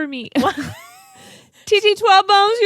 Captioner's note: both laugh